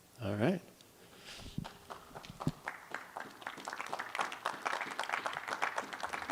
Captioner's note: applause